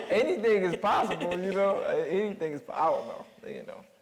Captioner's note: audience laughing